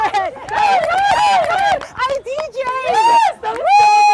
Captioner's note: both scream